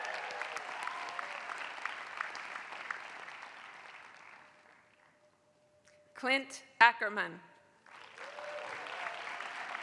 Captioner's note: applause